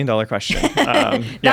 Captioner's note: laughter